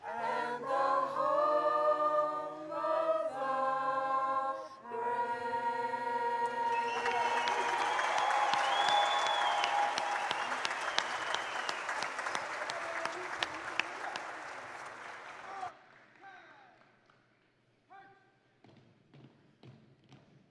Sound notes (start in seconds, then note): 7.4 audience and graduates cheering; 9.8 audience and graduates applauding